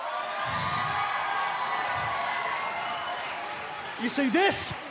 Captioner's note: cheering